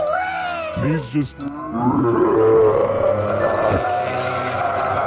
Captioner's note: demonic rabbit screams